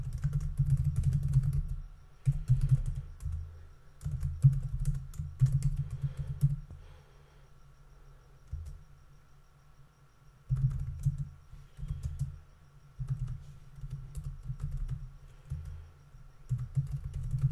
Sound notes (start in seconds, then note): 1.8 typing information